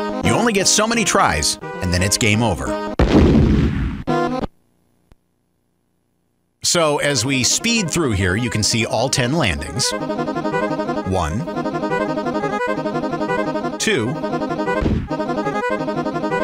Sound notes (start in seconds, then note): 3.0 boom!